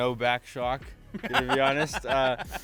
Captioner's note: laughing